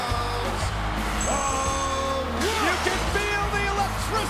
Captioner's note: crowd cheering